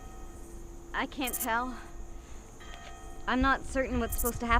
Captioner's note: distant churchbell dinging